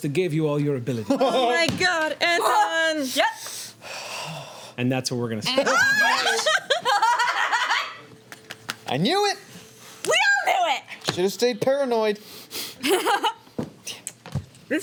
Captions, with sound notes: that gave you all your abilities. Oh my god, Anton! Yep. (sighs) And that's where we're gonna stop. (laughing) I knew it! We all knew it! Just stay paranoid. (laughs)